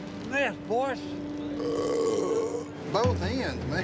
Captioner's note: loud burp